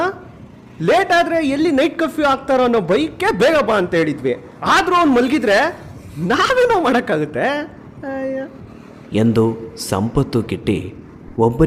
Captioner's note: sudden brakes